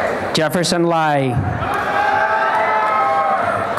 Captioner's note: applause and cheering